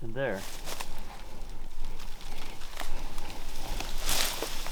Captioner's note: brush rustling